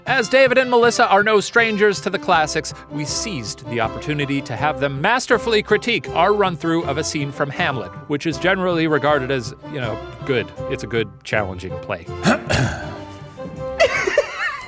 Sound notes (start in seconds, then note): 12.2 clears throat; 13.8 laughing